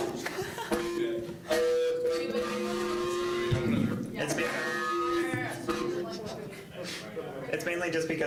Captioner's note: mic feedback